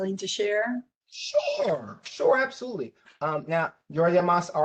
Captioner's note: professor speaking